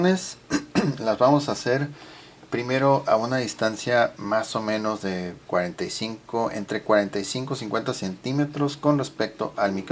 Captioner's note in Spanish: carraspeo